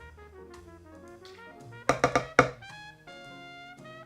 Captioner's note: liquid pouring, spoon tapping